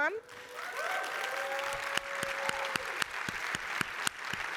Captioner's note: crowd clapping